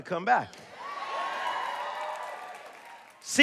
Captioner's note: cheers and applause